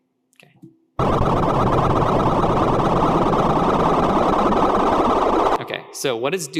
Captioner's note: distorted electronic beeping